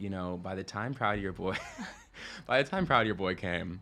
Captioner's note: chuckles